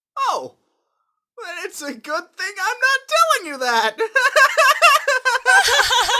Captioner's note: Krillin and Chi-Chi laugh; laughing